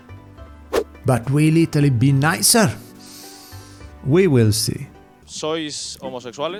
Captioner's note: inhale